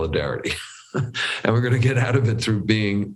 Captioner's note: laughs